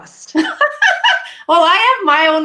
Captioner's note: laughing